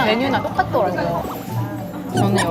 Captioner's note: nom nom